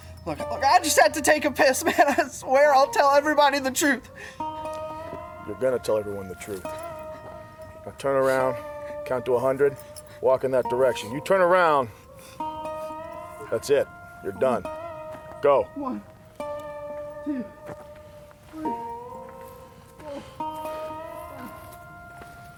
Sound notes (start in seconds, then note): 4.4 shuffling; 6.8 sniffling; 11.9 sniffling; 16.0 walking